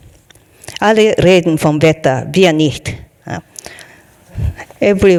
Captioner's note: speaking in foreign language